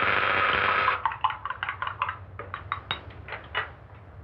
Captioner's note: buzzing; stirring